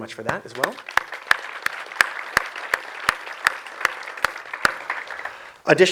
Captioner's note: audience applause